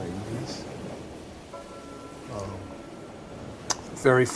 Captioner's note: waves rising